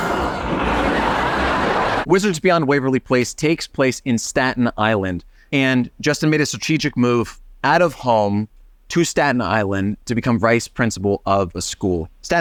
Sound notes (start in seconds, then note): 0.0 audience laughing